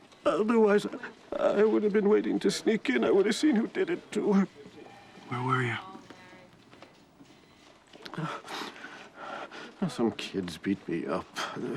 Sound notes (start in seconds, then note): 8.0 sniffles